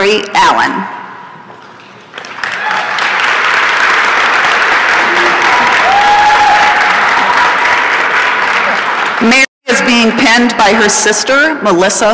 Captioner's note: applause and cheering